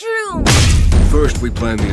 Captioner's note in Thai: ฟึ่บ